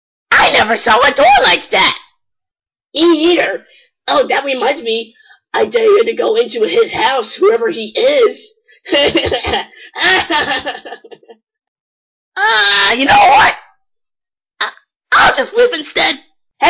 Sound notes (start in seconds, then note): 11.4 laughs